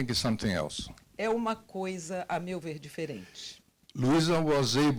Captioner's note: translator speaking Portuguese